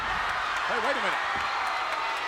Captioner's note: audience cheering and laughing